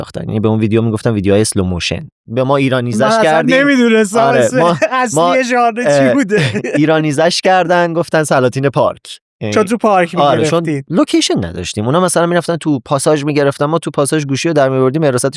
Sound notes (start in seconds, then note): 5.8 laughs